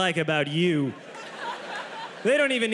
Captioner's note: audience laughs